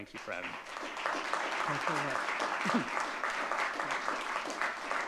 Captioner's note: audience clapping